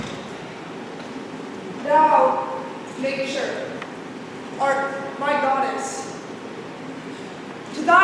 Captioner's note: door opens offscreen